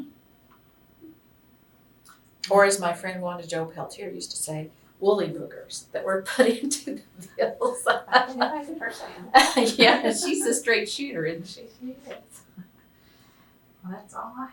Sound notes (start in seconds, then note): 7.6 laughter; 9.8 laughs